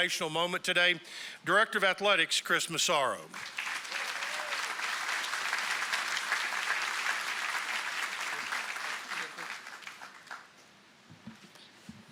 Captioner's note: applause